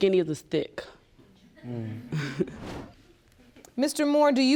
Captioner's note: chuckles